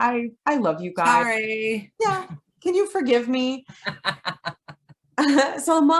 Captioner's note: laughs